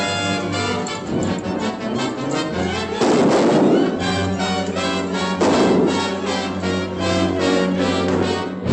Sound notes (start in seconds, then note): 2.9 gunshots